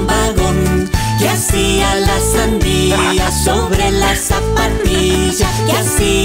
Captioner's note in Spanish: Risas